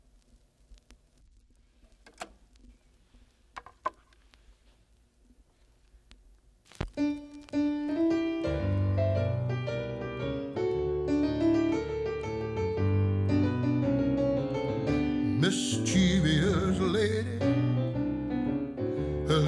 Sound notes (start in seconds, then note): 1.9 click!; 6.9 piano plays the blues